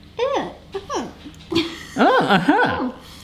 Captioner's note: murmurs